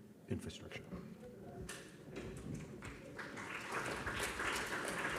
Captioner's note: applause